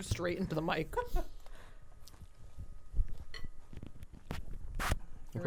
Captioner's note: chuckling